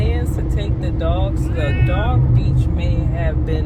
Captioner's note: meow